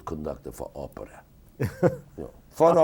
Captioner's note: interviewer laughing